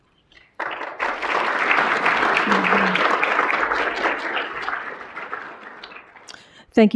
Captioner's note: applause